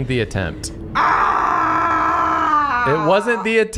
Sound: scream

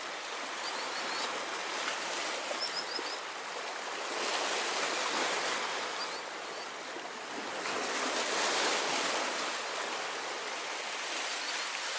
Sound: bird song, sound of water

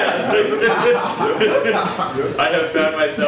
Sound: audience laughs

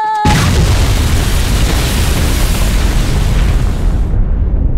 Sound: explosion booming

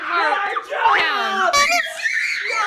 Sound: children screaming; horn beeps

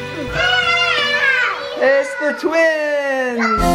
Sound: excited yelling

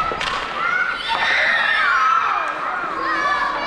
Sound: childish screams of delight

